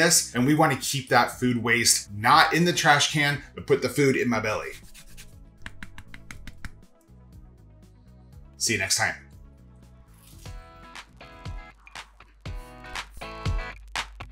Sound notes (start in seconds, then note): 4.6 lemon scraping; 5.7 lemon tapping; 7.0 gentle upbeat music; 10.2 toast crunches; 10.9 gentle upbeat music